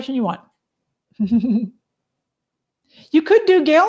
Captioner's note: laughs